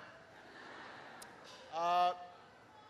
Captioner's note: laughter